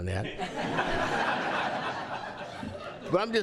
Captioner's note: laughter